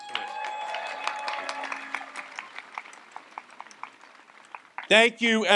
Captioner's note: audience applauds and cheers